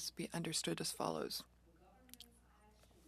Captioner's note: speaking French